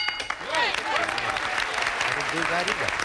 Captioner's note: audience applauding